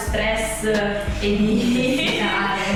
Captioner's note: laughing